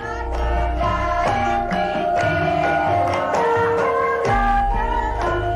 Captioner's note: applause